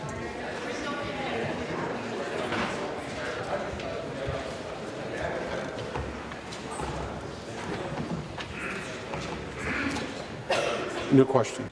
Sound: conversation din

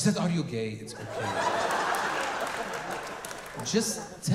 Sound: audience laughing

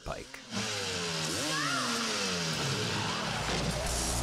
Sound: engine growls

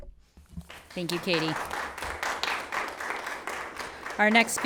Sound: everyone applauds

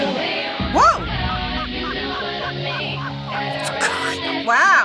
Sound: RuPaul laughing

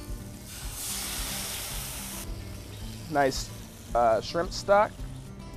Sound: sizzling

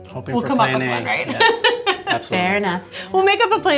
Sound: laughs

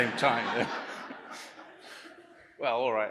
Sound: laughter

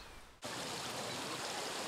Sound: river flowing

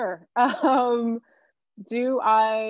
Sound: chuckling

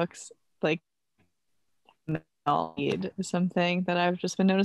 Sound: audio blurs

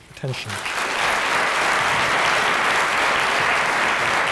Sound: applause

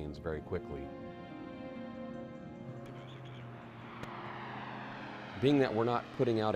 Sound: subscale aircraft taking off

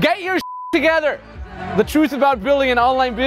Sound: beeping

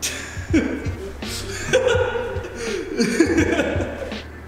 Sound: laugh

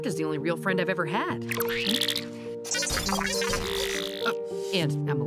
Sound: Emily beeps

